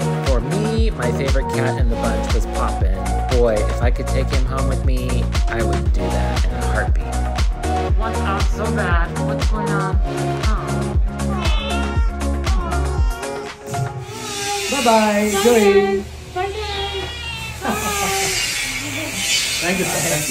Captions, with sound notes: For me, my favorite cat in the bunch was pop. Boy, if I could take him home with me, I would do that in a heartbeat. He wants out so bad. What’s going on? Awwwwww Bye bye….bye bye. (cat meow) Thank you sir, thank you